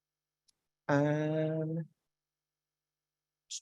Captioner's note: vocalizes